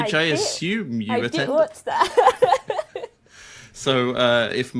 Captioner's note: laughs